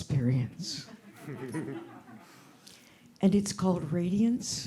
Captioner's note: group laughing